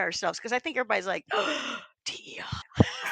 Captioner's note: gasp